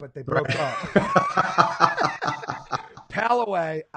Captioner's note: laughing